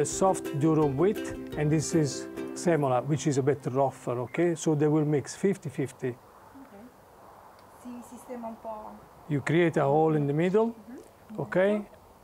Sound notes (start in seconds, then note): 7.8 speaking Italian